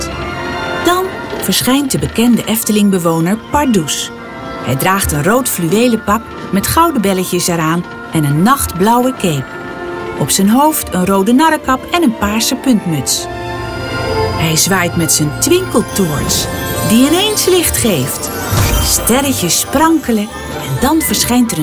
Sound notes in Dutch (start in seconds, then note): 17.2 sprankelend geluid